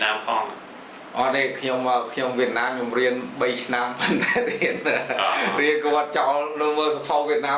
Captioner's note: laughs